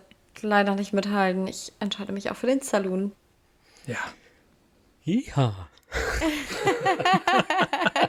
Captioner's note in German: gelächter